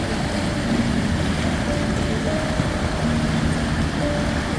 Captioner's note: sound of ocean waves